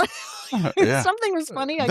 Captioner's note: both laughing